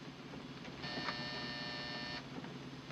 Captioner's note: buzzing